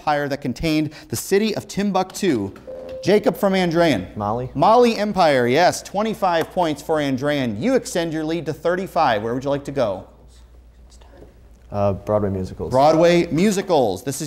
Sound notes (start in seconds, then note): 2.6 beeping; 11.2 whispering